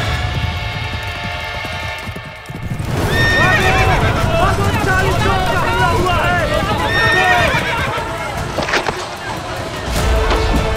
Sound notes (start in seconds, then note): 2.6 explosion; 6.2 horse neighs